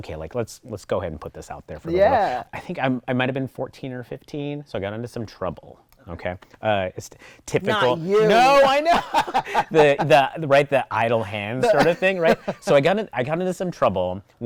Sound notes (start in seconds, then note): 7.7 laughing